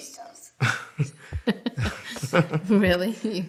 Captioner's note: laughing